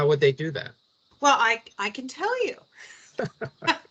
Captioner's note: laughing